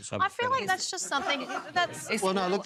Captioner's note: laughter